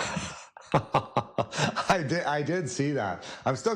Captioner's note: laughs